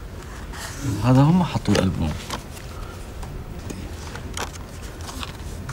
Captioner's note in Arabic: يتحدث لغة أجنبية